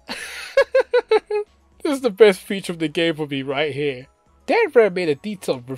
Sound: laughs

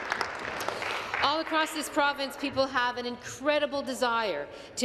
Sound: applause

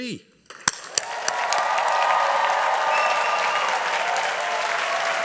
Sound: audience applauding

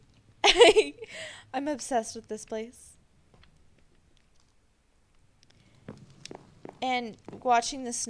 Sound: laughs

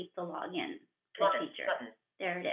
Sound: VoiceOver voice

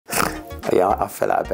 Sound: snorts

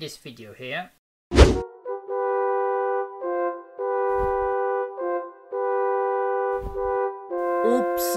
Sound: swish Transition; game Music

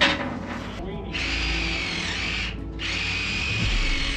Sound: jigsaw noises

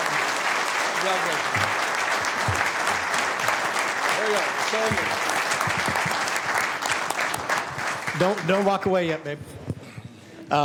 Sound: applause

